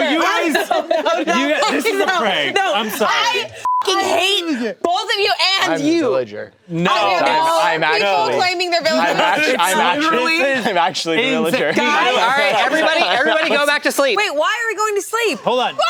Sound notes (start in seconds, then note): 3.6 beep